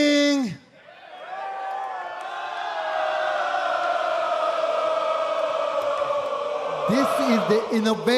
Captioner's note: crowd cheering